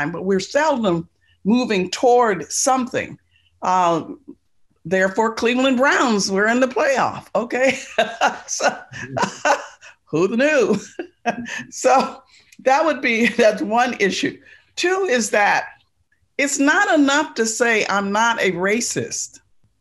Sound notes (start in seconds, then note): 7.6 laughing; 11.0 laughs